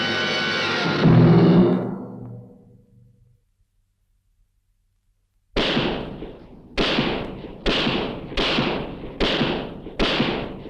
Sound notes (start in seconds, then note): 5.5 gun shoots